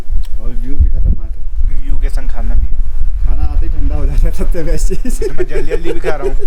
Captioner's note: laughs